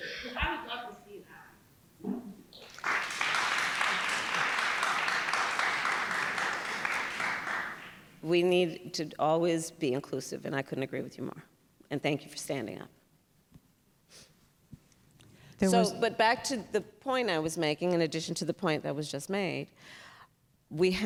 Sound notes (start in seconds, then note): 2.5 applause